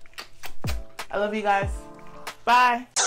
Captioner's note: lips smacking